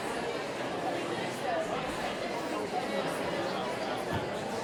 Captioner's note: audience buzz